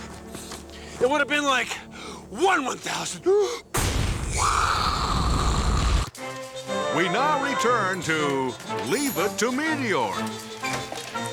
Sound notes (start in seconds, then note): 3.8 imitates explosion